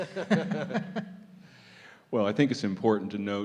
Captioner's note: laughter